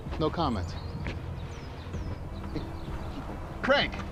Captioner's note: birds chirping